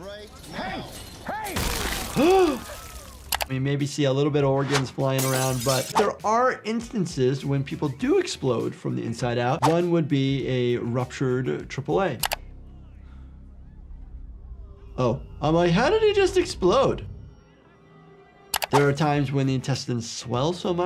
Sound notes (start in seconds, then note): 1.6 body splattering; 2.5 host gasping; 3.3 mouse clicking; 5.2 glass shattering; 12.2 dramatic music; 18.5 mouse clicking